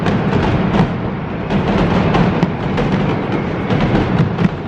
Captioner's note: fireworks